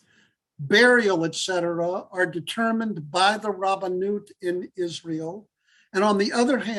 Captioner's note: Hebrew